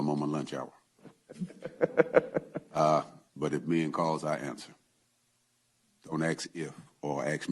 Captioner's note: laughs